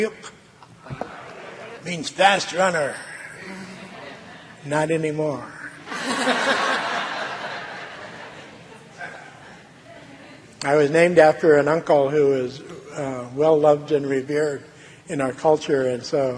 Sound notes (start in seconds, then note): 9.9 laughing